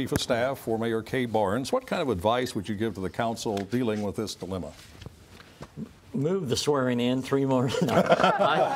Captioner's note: laughter